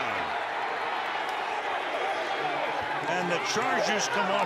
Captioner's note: cheering